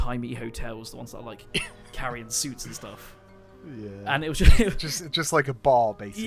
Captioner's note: laughter